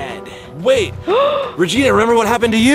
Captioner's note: gasps